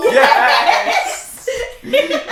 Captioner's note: laughing